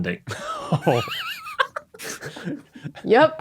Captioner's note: despondent laugh; wheezes